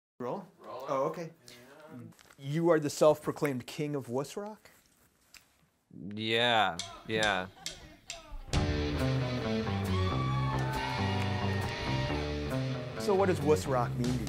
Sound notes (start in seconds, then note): 8.0 whooing; 8.1 mellow rock music